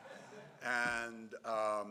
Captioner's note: laughing